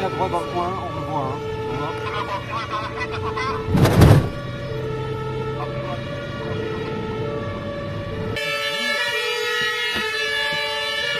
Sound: emergency sirens

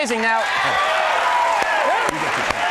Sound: crowd cheers

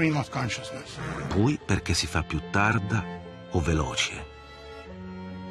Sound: speaking Italian

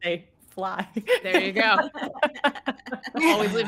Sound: all laughing

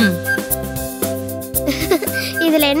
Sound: bommi laughs

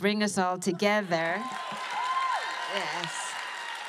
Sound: cheering

